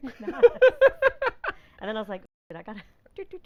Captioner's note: laughing